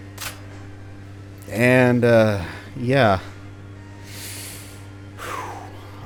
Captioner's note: deep breath